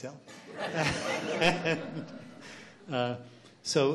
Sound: laughs

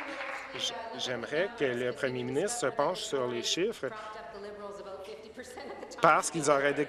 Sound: applause

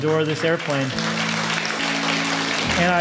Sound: applause

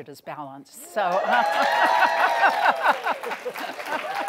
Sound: loud applause, clapping and hooting; laughing

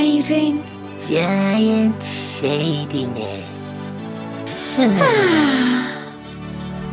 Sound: they sigh happily

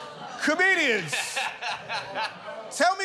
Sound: laughs

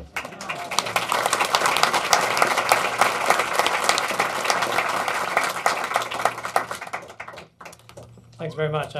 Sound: applauding

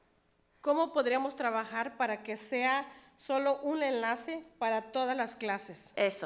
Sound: speaks foreign language

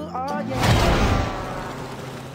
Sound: bus hits tom cat

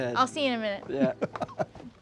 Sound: host laughs

